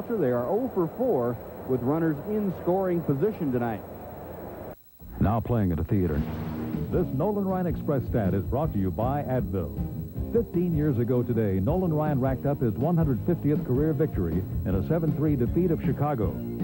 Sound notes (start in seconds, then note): 6.2 whoosh